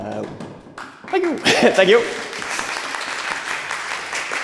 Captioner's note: applause